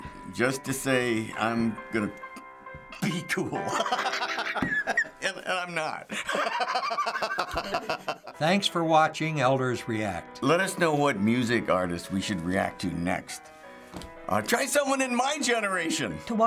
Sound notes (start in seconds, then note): 3.7 laughs; 6.1 laughs harder